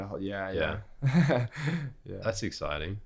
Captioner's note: laughs